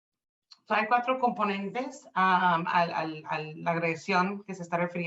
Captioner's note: speaking Spanish